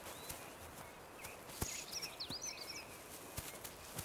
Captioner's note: birds twittering